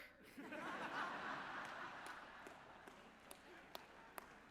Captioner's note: audience laughing